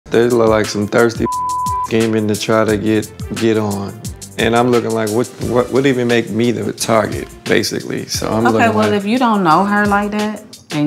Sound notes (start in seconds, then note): 1.2 beep